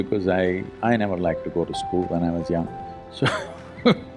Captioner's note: laughs